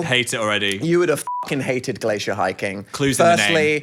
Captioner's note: beep